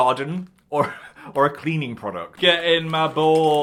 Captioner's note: laughs